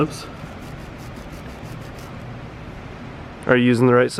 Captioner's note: knife scratches